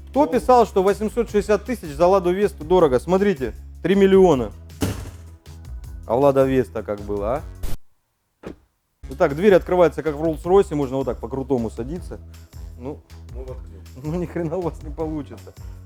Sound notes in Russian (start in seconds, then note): 4.8 дверь закрывается с дребезжанием; 7.5 дверь закрывается с глухим звуком